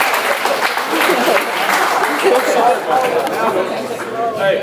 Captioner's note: audience applauds; audience laughs; audience chattering